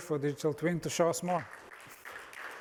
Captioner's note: applause